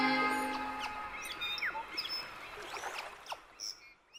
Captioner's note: waves lapping; birds chirping